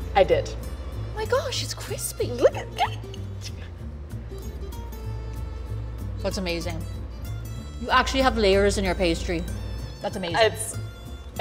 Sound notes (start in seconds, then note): 3.1 giggles; 4.0 lighthearted music